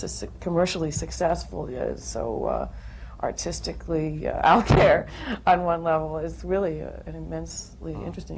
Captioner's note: laughs